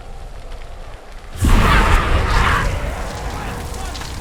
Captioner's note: loud burst of noise; sounds of screaming, yelling